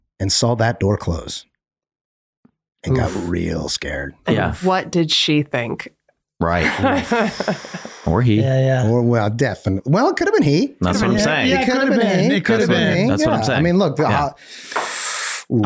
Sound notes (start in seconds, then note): 7.1 Charlie sighing; 14.3 Rob inhaling